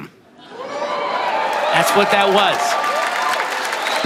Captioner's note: audience cheering